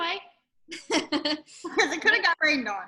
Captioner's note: laughs